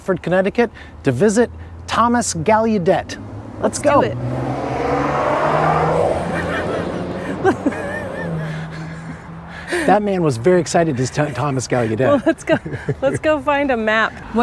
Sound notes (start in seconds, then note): 4.1 loud car driving away fast; 9.6 laughing